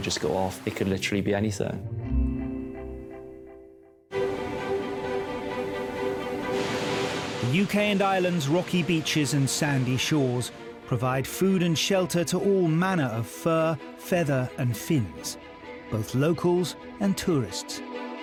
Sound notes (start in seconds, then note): 4.5 bright music; 7.0 waves crashing